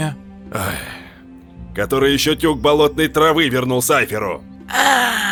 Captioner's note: angry exhale